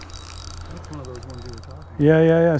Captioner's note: reel spinning